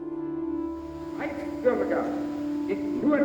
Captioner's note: speaking German